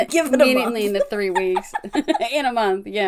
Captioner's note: laughs